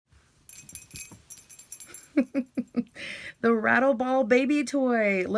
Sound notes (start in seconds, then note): 0.5 rattling noise; 2.1 laughter